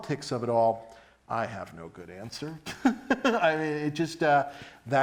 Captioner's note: laughs